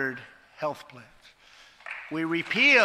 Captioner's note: applause